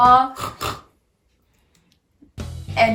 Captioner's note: oink